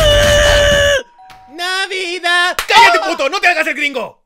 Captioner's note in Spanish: Bofetada